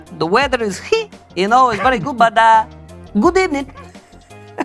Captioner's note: josé laughs